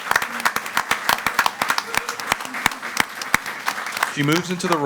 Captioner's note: all applauding